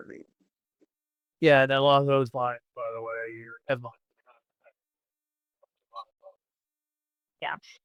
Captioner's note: sound of mouth